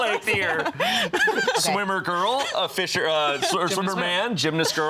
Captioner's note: laughing